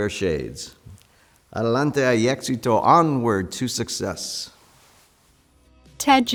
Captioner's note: non-english